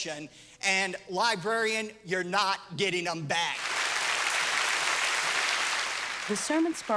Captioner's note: applause